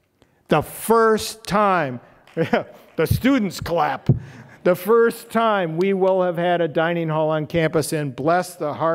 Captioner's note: the students clap